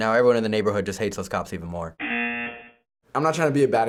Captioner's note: buzzer